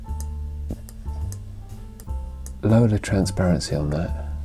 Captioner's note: mouse clicking